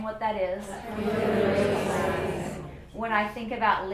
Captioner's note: students speaking all at once